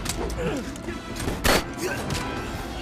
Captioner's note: gun firing; man speaking in Spanish; men grunting; guns firing